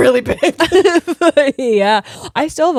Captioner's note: both laughing